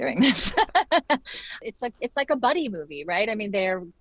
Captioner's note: laughs